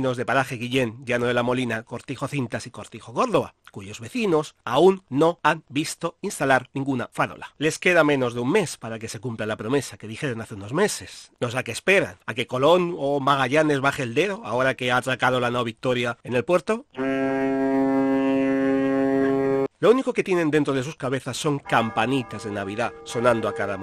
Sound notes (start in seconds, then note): 16.9 ship's horn sound